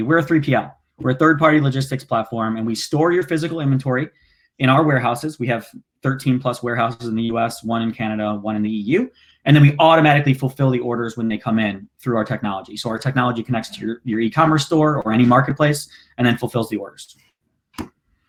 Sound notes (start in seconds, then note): none